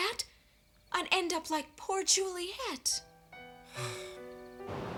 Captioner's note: sighs